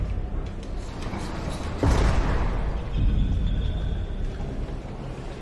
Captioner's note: prison doors clanging